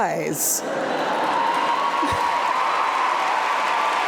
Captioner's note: crowd cheering